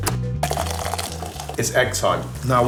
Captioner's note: switch clicks; kettle clunks; water trickling